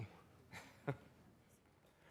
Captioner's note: frank chuckles